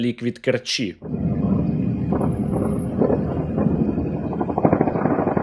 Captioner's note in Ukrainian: серія вибухів